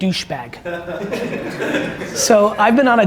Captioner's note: audience laughs